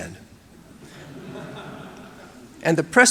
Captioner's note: audience laughing